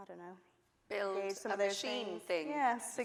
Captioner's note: voice muffled